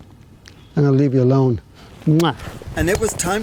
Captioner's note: blows kiss